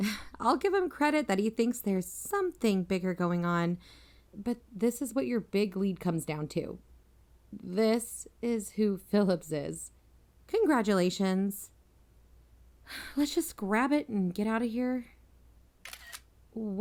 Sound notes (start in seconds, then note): 11.8 sigh; 15.8 iphone camera click